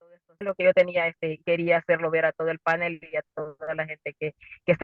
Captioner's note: speaking in foreign language